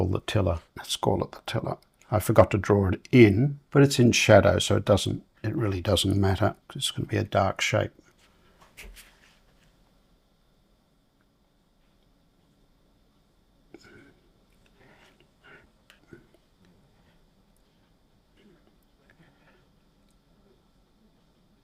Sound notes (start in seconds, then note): 9.0 silence